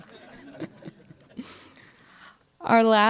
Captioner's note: laughter